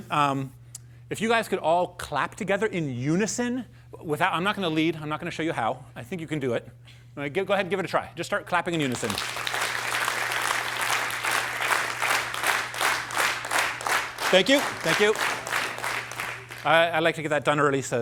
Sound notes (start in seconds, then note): 8.8 applause; 11.3 rhythmic clapping